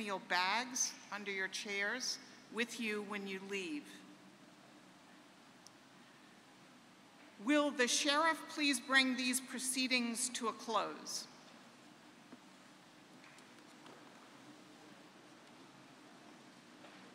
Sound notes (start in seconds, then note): 11.4 tap, tap, tap